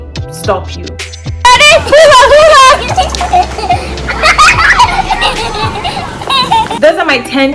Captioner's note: laughs